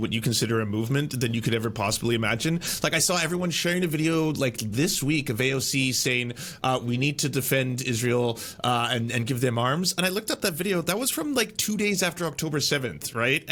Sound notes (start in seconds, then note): none